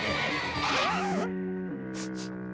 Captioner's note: sniffs